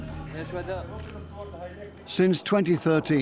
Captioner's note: man speaks Kurdish